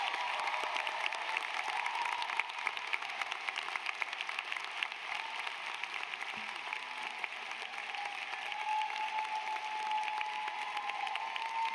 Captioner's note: applause